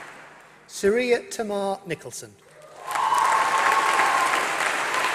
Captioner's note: applause